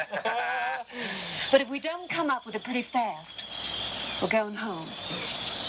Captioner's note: laughs